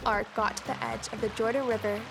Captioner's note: water flowing